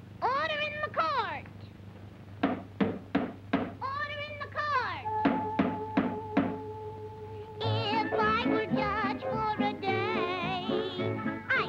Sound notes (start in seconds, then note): 2.4 gavel bangs; 6.3 gavel bangs